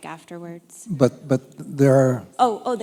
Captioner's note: voiceover